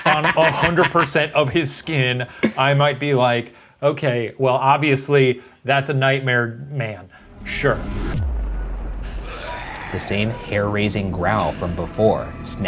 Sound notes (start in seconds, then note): 9.0 growling